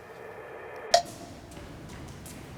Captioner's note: cowbell dings